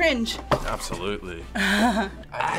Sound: React laughs

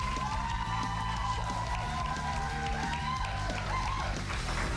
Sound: cheers and applause

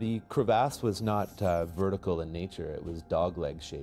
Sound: voiceover

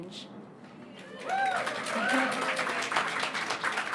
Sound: applause

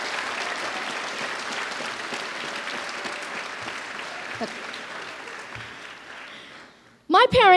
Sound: applause

